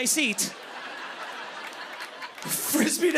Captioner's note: laughter